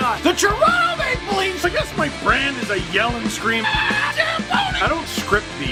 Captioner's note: rock music plays throughout intro; screams